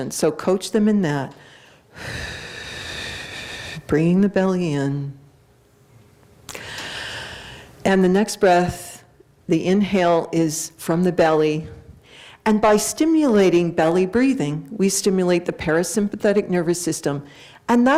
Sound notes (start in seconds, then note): 1.4 exhales; 6.5 inhales